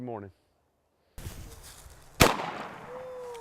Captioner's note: gun shots